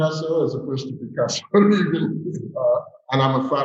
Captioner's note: laughing